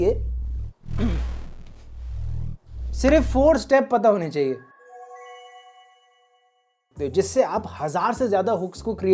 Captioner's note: throat clearing sound